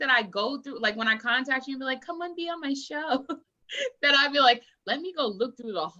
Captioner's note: laughs